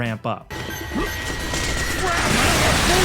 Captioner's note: gunshots; explosions